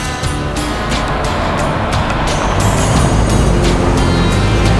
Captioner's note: none